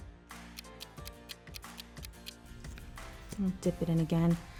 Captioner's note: timer ticking